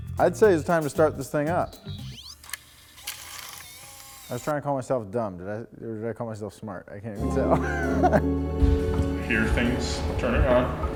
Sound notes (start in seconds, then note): 7.4 chuckles